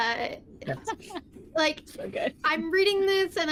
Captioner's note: all giggling